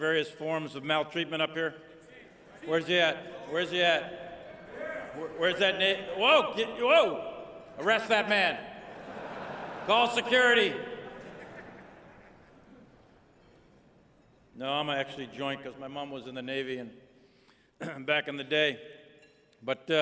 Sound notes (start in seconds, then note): 11.0 laughter